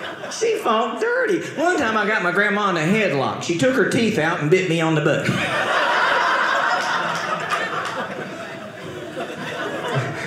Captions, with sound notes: She fought dirty. One time, I got my grandma in a headlock. She took her teeth out and bit me on the butt. (audience laughing)